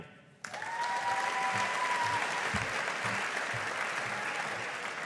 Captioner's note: audience applauding